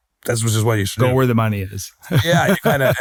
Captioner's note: laughs